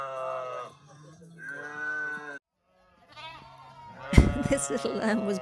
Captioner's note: sheep bleating